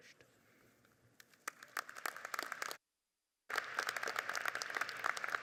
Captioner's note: audience applauding